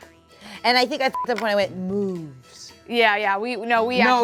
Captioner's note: beep